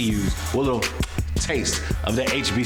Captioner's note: lips smack